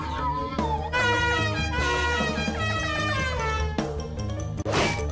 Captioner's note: infamous car horn